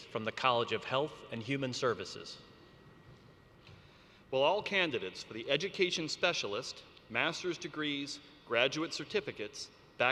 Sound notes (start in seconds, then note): none